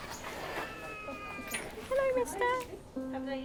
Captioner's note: cat meowing